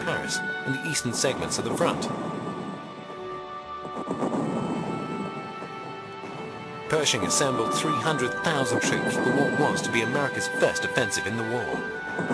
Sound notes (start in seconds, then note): 3.7 heavy artillery booming